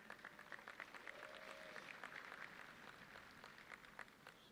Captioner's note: audience clapping